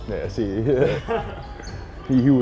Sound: laughter

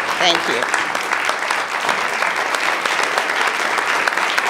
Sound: all applauding

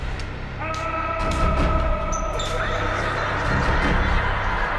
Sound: man yelling

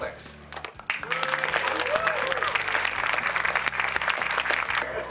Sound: applause; laughter

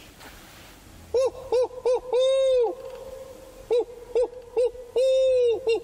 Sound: imitates gobbling

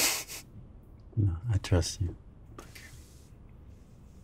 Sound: chuckles

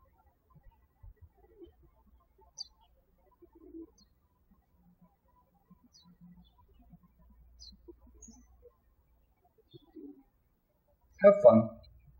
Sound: birds chirping

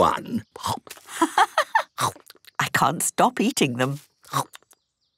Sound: laughing

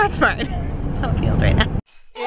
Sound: laughs

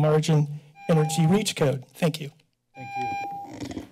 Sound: timer rings

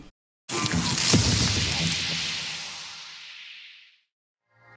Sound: dramatic sound

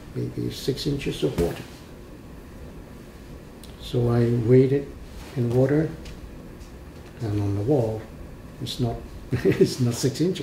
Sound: laughs

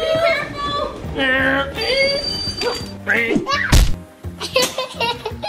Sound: vrooming and braking noises; laughing

